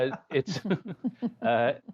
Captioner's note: laughter